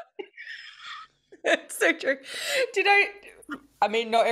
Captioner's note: both laughs